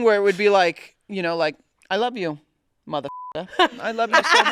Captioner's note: beep